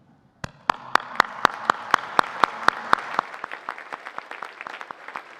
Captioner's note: audience applauding